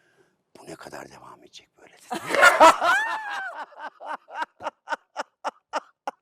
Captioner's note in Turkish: kahkaha